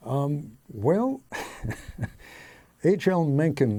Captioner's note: chuckling